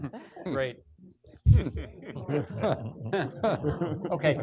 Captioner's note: laughing